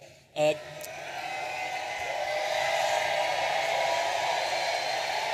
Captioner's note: audience applauding and cheering